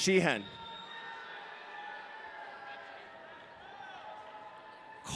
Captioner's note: audience cheering